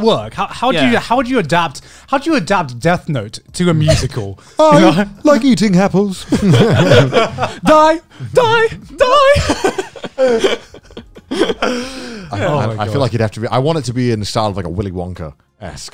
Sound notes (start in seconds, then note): 9.2 everyone laughs